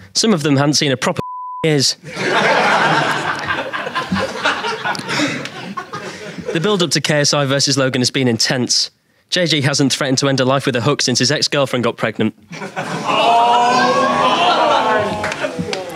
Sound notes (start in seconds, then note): 2.0 audience laughing; 12.8 audience groans